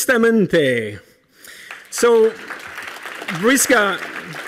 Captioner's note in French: Applaudissements